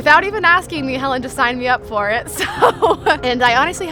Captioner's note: chuckles